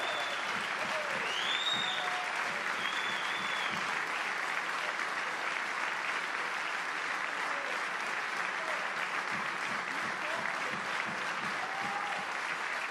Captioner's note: applause